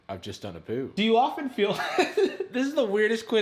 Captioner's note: laughing